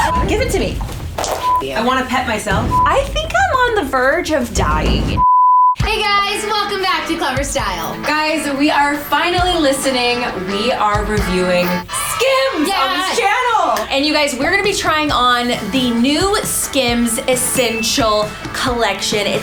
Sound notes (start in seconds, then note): 12.0 cheers